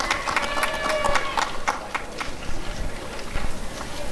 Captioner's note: applause and cheering